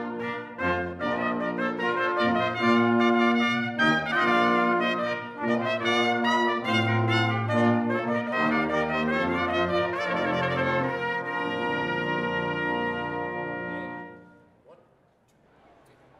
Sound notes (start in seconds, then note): none